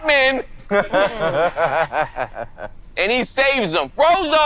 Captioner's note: laughing